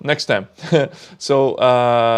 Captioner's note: chuckles